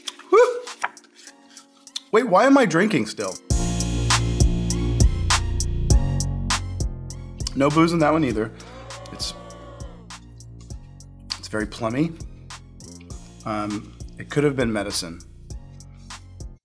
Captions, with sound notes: Woo! Wait, why am I drinking still? (suspenseful music) No booze in that one either. (crowd booing) It's, it's very plummy. It could have been medicine.